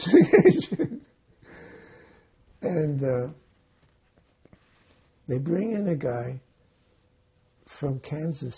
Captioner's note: laughing